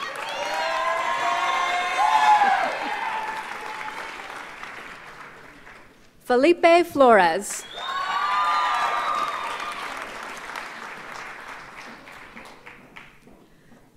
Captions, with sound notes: (audience cheers and applauds) Felipe Flores. (audience cheers and applauds)